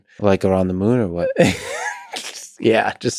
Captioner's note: Tim laughs